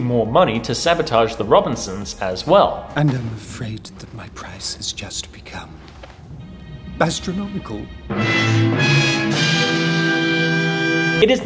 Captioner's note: laugh track